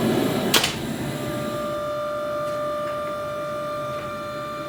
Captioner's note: door squeaking; furnace roaring; press whirring